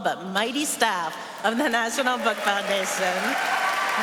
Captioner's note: applause